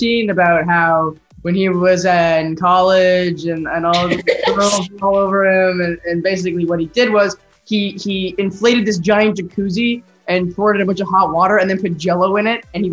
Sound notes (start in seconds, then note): 3.9 laughing